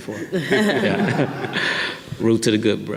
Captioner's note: audience laughing